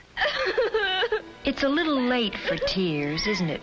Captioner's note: girl sobbing